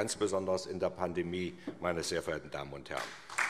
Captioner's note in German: Beifall SPD